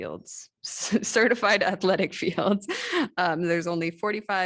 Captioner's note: laughter